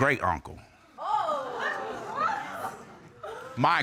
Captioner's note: audience exclaiming